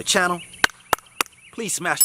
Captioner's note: palm smacking